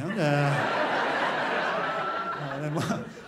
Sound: crowd laughs

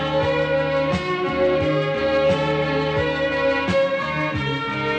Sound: sirens sounding

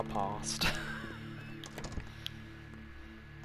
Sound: laughs

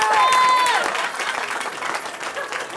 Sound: cheering

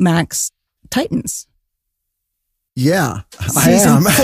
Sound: laughing

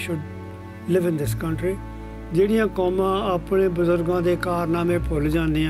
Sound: speaking Punjabi

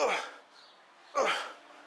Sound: grunt

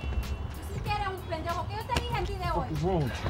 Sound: yelling in Spanish

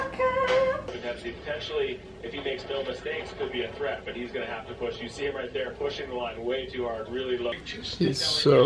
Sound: tv in background

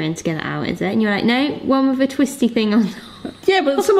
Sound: laughing

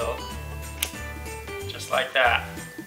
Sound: laptop clicks

